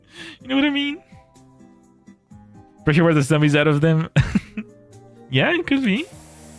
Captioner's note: laughter